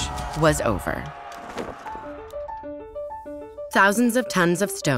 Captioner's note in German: jubelnde Menschenmenge